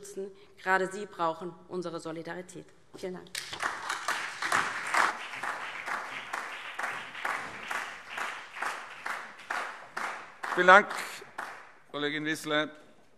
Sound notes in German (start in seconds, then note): 3.4 Beifall DIE LINKE und vereinzelt BÜNDNIS 90/DIE GRÜNEN